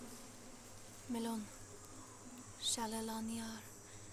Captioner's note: both speaking foreign language